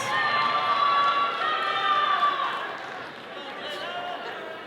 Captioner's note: all cheering